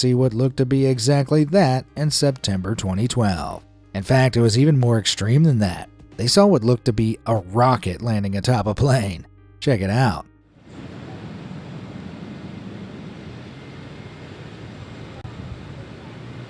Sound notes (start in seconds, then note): 10.6 engine whirring